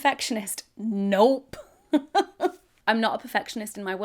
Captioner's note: laughs